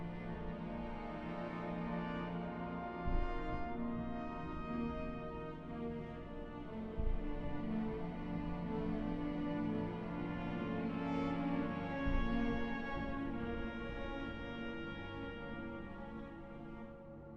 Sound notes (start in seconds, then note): none